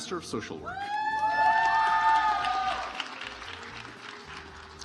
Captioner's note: audience applauds